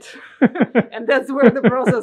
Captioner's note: laughing